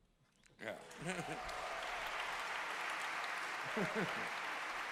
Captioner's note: applause